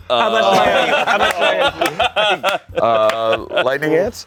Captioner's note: everyone laughs